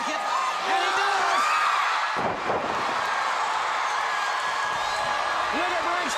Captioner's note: crowd cheering